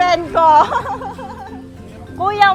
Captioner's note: laughs